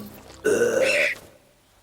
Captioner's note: belches